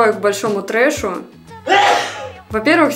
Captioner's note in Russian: звук чихания